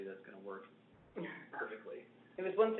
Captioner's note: laughs